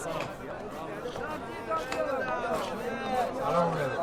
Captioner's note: roar of chatter